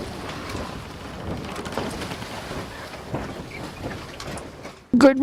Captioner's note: wave splashes